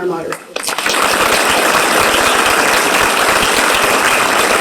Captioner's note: audience applauding